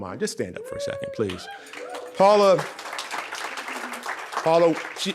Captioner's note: audience cheering